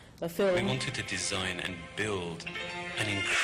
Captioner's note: voiceover